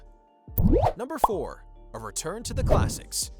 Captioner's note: bubble popping sound